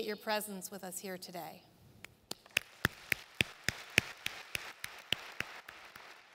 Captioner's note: applause